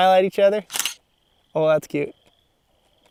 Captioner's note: click; crickets